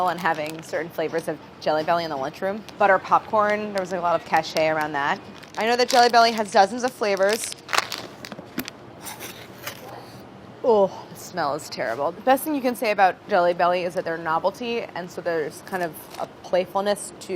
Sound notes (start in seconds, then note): none